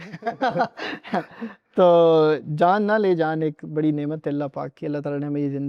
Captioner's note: laughter